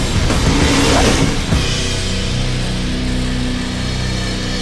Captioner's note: gunshot fires; monster roaring